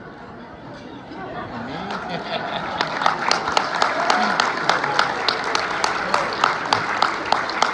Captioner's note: hug, laughter, applause